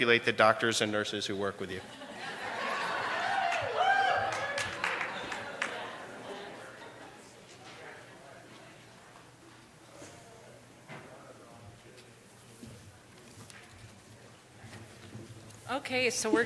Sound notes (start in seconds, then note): 3.9 laughter and applause